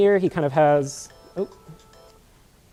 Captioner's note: ringtone